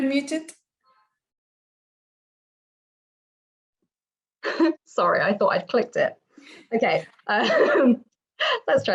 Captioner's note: laughter